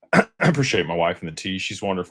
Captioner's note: clears throat